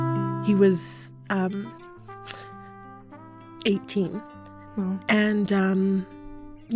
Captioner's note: choking up